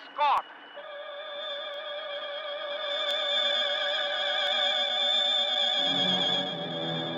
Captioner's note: ships humming; suspenseful orchestral music